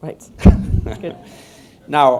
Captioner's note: laughter